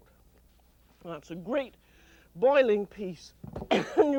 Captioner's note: coughs